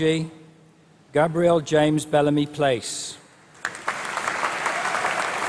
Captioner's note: applause